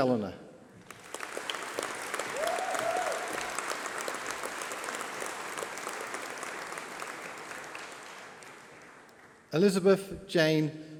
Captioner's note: applause